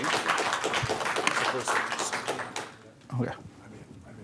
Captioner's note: applause